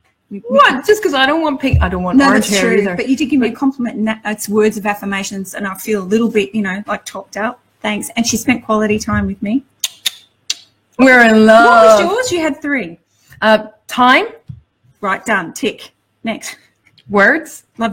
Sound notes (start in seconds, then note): 9.8 tongues clicking